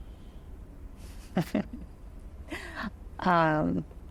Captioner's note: chuckles